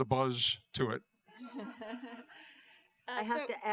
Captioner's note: laughter